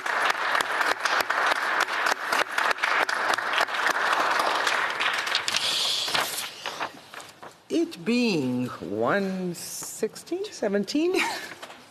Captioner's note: applause